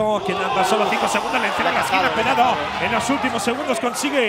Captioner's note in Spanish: Gritos